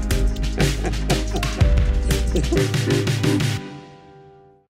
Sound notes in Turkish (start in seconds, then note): 0.2 Gülüyor